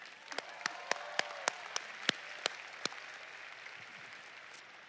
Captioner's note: applause